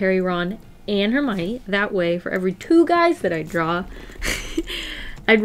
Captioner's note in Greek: Γέλια